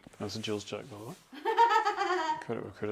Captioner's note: laughing